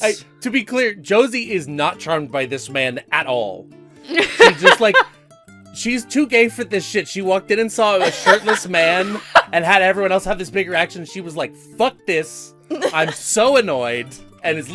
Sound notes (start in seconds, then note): 8.0 laughter